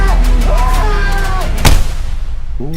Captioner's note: screaming; gunshot